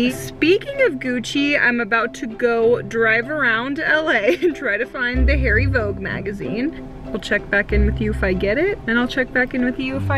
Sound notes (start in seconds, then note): 4.3 chuckles